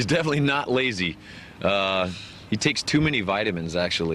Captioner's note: laughing